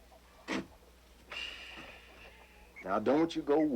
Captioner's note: Ben sighing